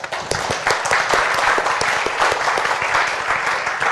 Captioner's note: applause